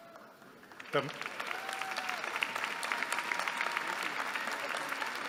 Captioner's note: applause